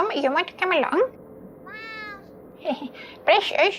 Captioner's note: cat meows